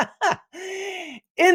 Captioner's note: laughing